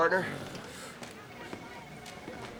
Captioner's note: grunting